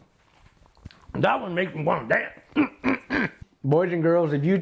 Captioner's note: grunting